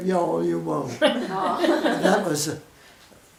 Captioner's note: women chuckle; women laugh